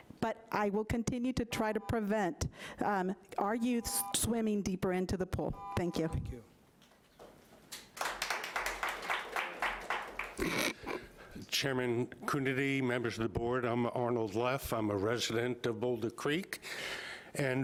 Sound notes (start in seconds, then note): 7.8 audience applauding